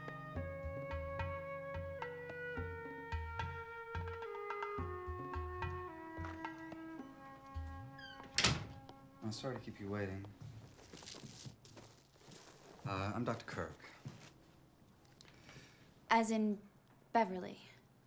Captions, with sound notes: (door closes) - I'm sorry to keep you waiting. I'm Dr. Kirk. - As in Beverly.